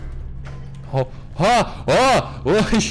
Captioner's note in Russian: звуки паники